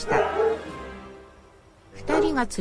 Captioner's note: dogs barking